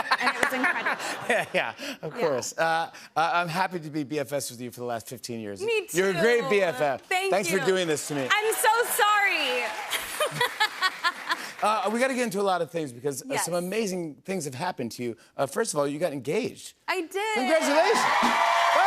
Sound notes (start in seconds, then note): 10.0 laughs